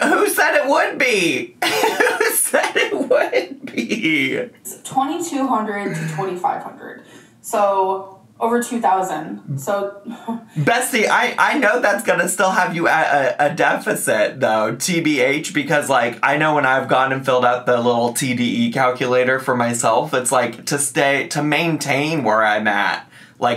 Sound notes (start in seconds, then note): 1.6 laughing; 9.7 laughs